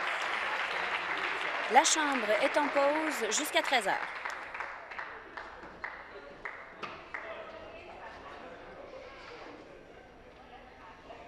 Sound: some Applause

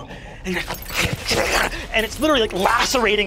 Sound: growls; glass breaking

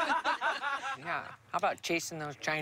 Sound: laughter

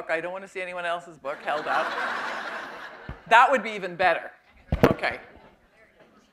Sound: laughter

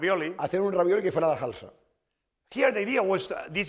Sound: speaking spanish

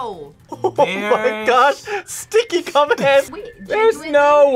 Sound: laughs

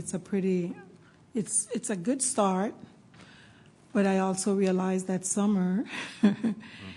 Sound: laughs

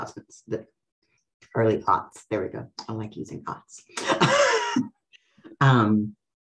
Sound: laughs

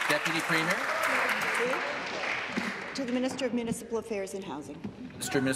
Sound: applause

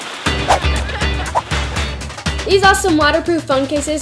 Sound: whooshing

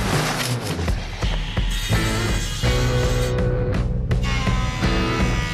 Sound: machines whirring

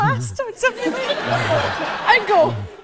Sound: audience laughs

